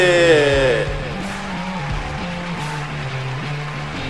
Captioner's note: crowd cheering